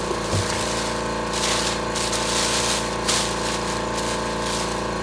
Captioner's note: paper crumpling